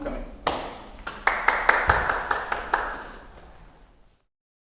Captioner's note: group clapping